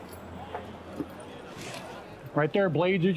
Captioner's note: townsfolk bustling